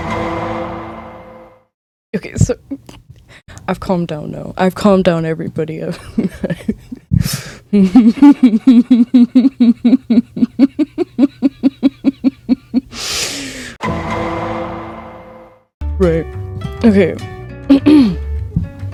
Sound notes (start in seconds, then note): 7.8 chuckles; 7.8 weird and evil laugh